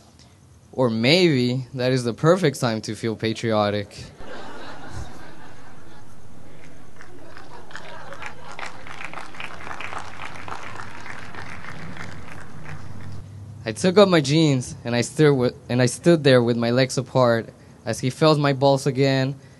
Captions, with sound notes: Or maybe, that is the perfect time to feel patriotic. (laughter) (applause) I took off my jeans and I stood there with my legs apart, as he felt my balls again and